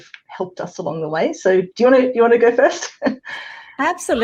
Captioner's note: chuckles